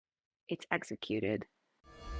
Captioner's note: Hebrew